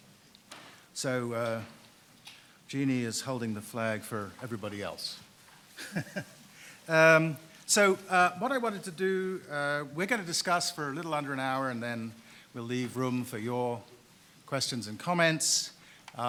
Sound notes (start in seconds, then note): 5.8 laughs